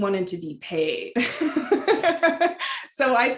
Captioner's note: laughter